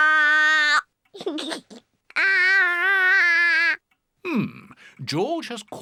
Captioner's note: giggles